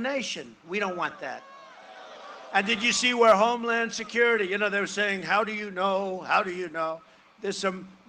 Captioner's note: booing